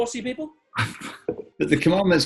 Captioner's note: splutters